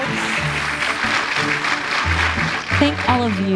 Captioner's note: audience applauding